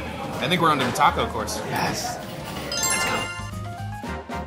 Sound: bells trilling; upbeat music

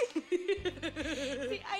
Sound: both laugh

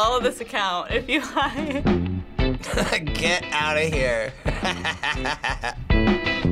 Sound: laughs; chuckles

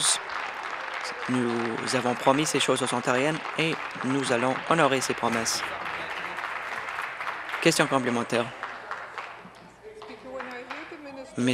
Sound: applause; voice trailing

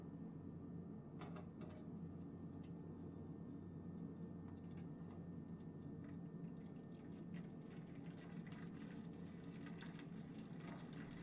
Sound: water pouring sound

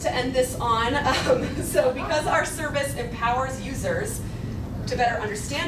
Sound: laughs

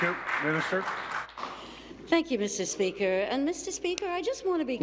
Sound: applause

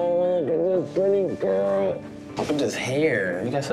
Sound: groans

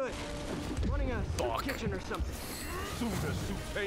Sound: laughs

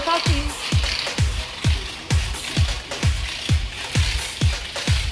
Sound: weight clicking

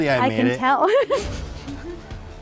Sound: laughs

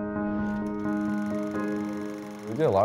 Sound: film projector clicking

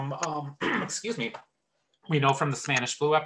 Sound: clears throat

